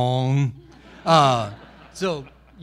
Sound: audience laughing

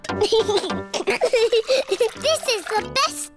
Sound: giggles

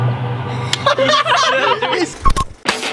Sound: laughing

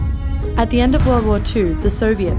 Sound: voiceover

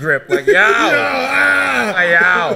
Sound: laughing

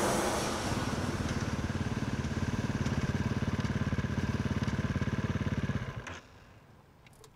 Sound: motorbike running

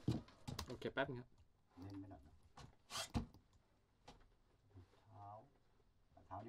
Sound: speaking in a foreign language

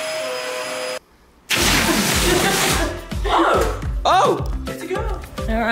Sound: balloon flies away

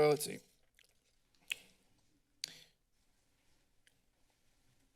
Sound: chewing noise

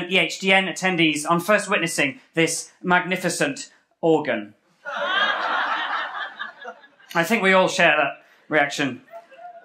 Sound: laughter

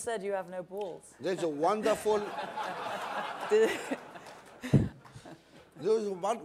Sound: laughter

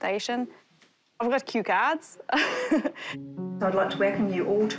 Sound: laughs

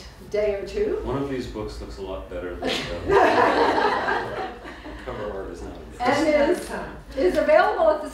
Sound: laughter

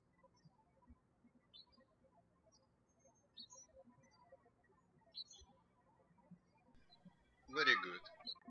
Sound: birds chirping

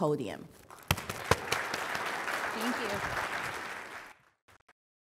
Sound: applause

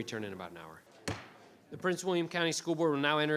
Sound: gavel banging

